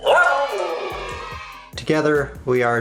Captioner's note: sound effect of cheering